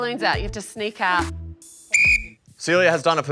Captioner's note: blows whistle